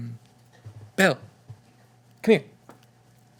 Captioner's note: none